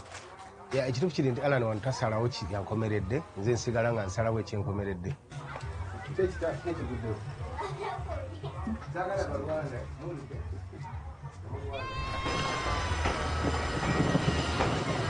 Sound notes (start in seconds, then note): 5.2 family chattering in the background; 11.6 kids yelling